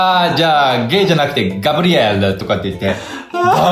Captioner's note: laughs